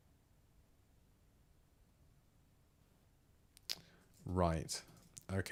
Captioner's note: silence